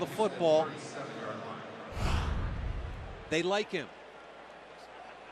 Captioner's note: pa announcement